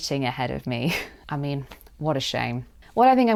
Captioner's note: sarcastically